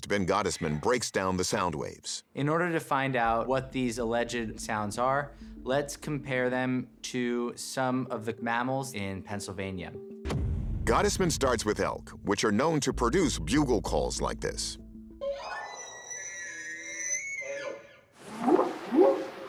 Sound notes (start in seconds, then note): 15.3 squealing; 18.3 whooping sound